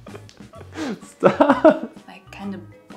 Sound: laughing

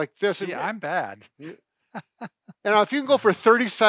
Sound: laughs

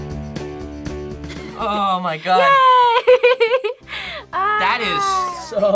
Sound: upbeat music; laughs

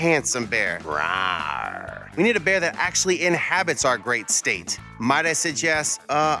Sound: growl

